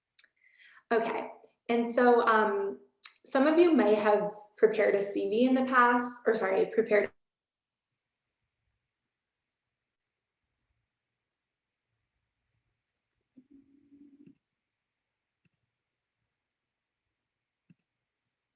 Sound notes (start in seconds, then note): 11.8 audio cuts off